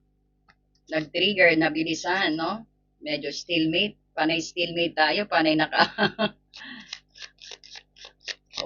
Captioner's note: laughter